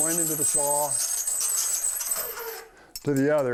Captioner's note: metal-on-metal scraping